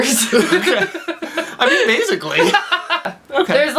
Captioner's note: laughs